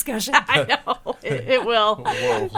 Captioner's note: laughing